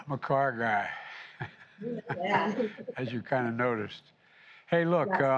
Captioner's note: laughs